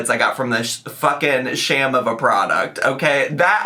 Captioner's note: none